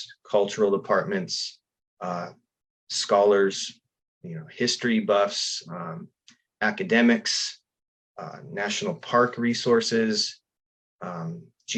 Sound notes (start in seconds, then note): none